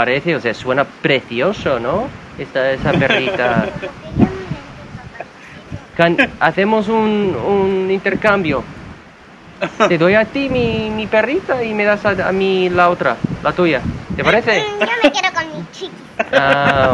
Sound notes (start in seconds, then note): 0.2 speaking Spanish; 2.8 father laughing; 5.3 people speaking Spanish; 9.6 father laughing